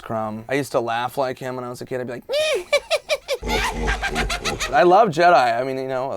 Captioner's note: Salacious Crumb Laughing